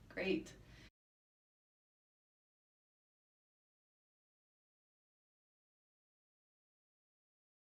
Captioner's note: silence